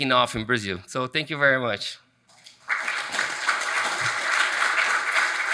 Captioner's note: audience applauds